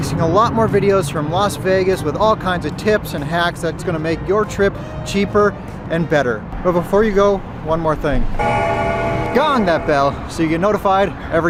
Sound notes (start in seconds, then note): 8.4 bell dings